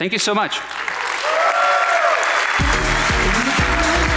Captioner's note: audience applauding; upbeat music